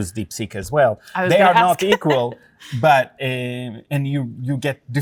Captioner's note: laughs